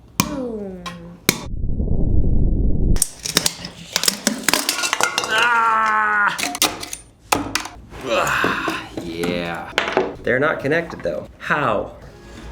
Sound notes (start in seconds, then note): 1.3 bomb exploding; 5.3 yelling